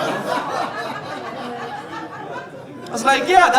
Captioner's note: audience laughing